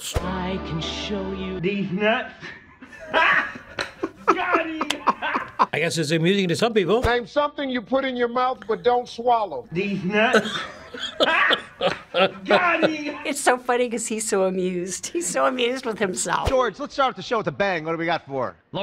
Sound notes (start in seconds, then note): 2.9 chuckles to herself; 10.1 chuckling